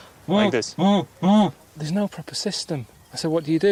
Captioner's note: imitates bleeping